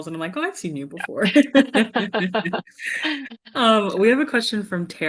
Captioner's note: both laughing